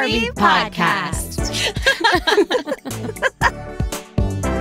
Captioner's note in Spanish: ríe